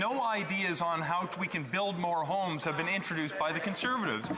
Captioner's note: speaking French